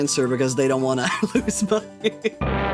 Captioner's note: laughing